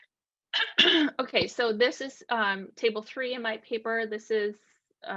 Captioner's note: clears throat